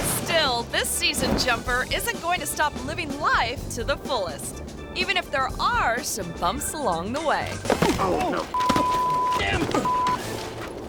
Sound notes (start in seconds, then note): 7.5 thuds; 8.5 beep